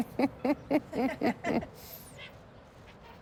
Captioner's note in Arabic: تضحك